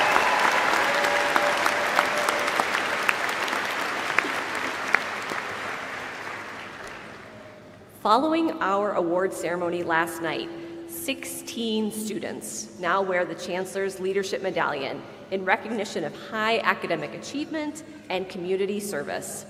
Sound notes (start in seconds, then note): 0.0 applause